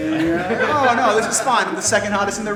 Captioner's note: everybody laughs